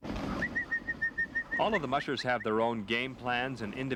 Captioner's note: whistling